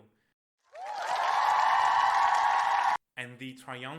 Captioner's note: crowd cheers